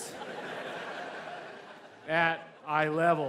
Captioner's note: audience laughs